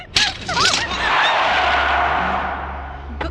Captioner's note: tire Screeching